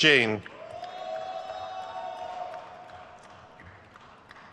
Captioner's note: crowd cheers